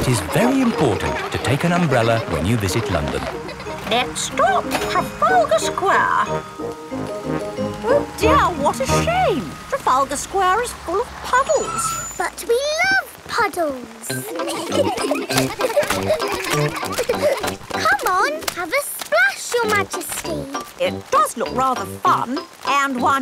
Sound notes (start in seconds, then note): 10.6 tires screeching; 14.0 kids giggling